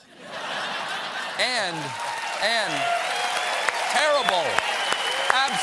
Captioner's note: laughter; cheers and applause